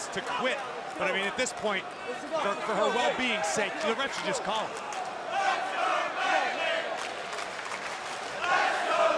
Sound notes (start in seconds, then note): 4.4 crowd chatter